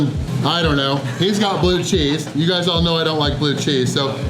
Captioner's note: laughter